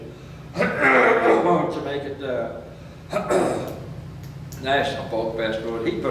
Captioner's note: coughs; clears throat